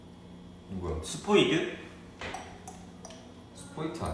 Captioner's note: clicks his tongue??